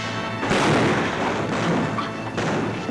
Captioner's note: gun bangs; guns bang